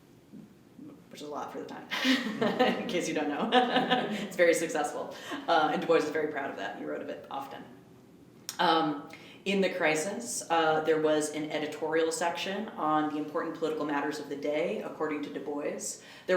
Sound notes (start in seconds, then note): 1.9 laughs; 1.9 laughter